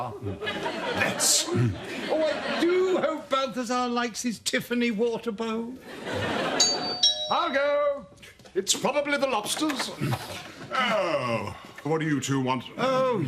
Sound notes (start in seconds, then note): 6.5 doorbell